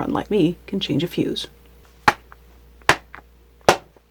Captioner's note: smack